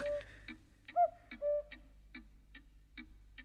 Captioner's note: cuckoo clock chimes